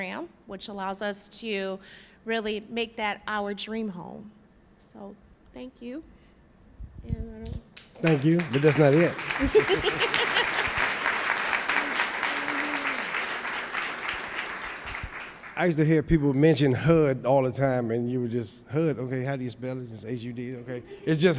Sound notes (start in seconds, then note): 12.5 applause